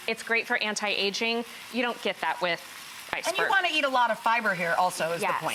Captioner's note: none